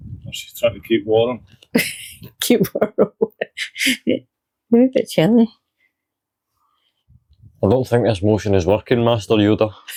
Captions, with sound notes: Or she's trying to keep warm. [laughs] Trying to keep warm I'm a wee bit chilly. I don't think this motion is working, Master Yoda.